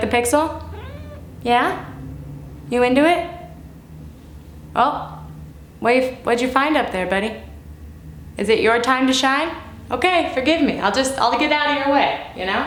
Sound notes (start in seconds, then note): 0.6 meow